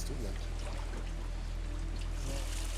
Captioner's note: water trickling